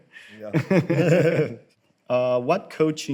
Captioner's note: both laugh